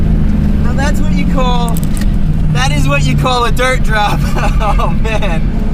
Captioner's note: laughing